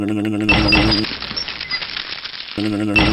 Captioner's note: clank